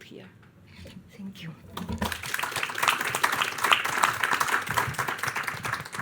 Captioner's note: audience applauding